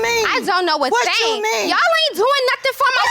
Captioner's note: shouting